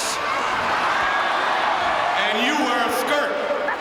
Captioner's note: audience cheering